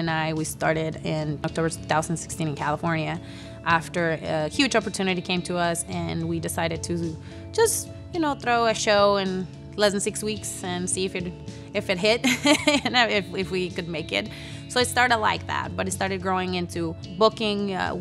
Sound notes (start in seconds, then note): 11.5 laughs